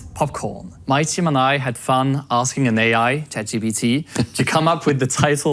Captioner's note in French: Nolan rit